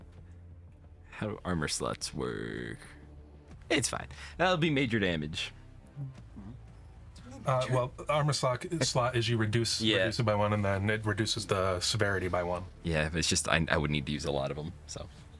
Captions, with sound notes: Vaguely visible as like-- I pictured the bubble man from SpongeBob. (laughing) I wonder what happened to you? Why see through?